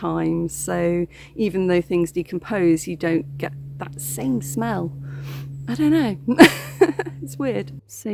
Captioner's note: laughing